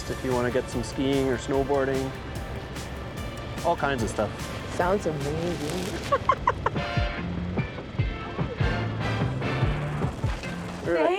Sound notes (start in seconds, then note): 5.9 laughs; 7.0 slow rock music continues